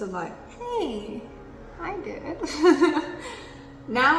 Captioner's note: laughs